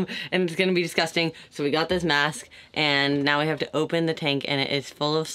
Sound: none

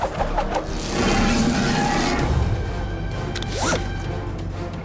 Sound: growling

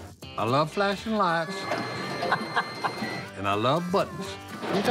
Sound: chuckles

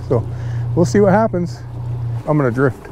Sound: chuckling

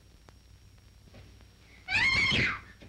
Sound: screaming

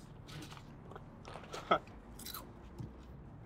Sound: none

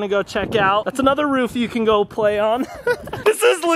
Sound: laughs

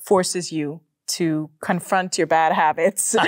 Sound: both laugh

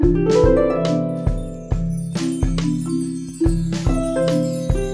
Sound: light music; chimes tinkling

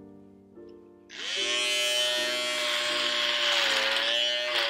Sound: shaver buzzing

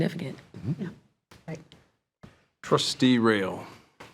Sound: trustees murmuring agreement

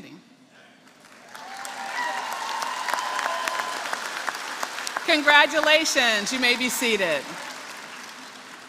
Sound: applause

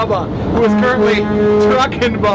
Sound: horn blares

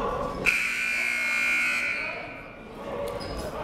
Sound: buzzer

